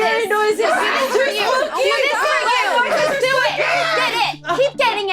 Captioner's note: overlapping chattering